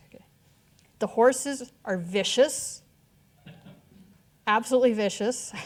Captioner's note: audience chuckling